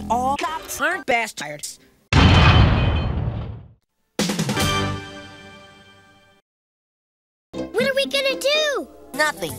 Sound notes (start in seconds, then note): 2.1 slam